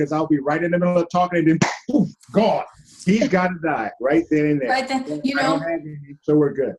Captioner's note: smacking sound